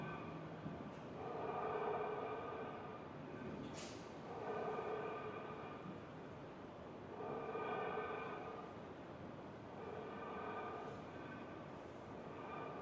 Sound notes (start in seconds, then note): 0.7 rhythmic breathing continues